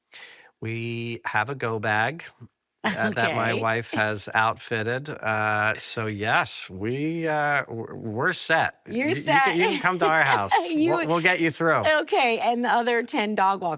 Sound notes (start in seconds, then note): 2.9 chuckles; 9.1 laughs